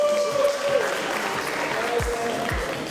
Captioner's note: applause